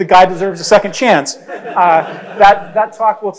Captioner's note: crowd laughs